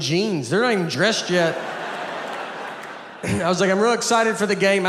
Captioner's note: audience laughs